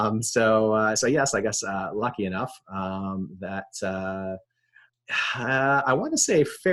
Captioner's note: sighing